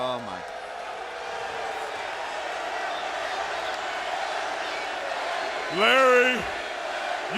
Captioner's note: crowd chatter